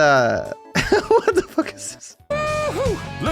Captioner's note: laughing